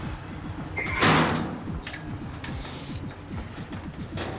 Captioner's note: door slamming